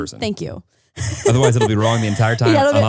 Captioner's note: laughing